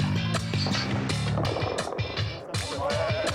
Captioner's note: children giggling; gunfire exploding